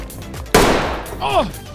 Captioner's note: gunshot